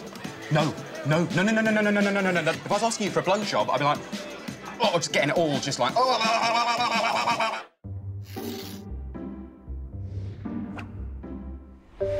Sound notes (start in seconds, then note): 6.9 gargles